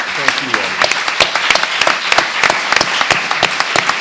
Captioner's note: applause